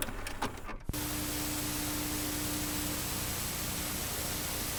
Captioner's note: static white noise